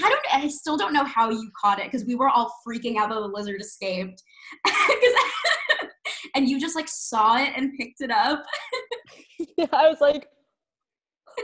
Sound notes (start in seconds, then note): 4.6 laughing; 8.4 laughing